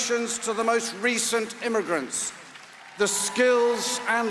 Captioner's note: applause